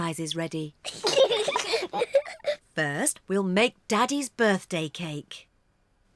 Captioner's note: both giggle